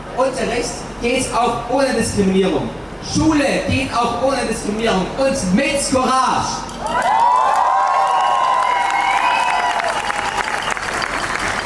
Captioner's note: applause and cheers